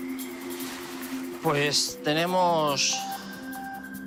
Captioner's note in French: Audio parlé en espagnol